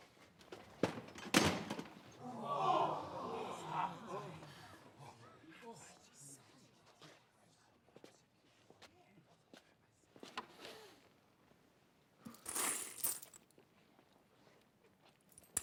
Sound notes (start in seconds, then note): 2.1 crowd gasps